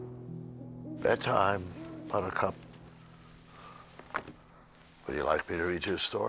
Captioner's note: owl hooting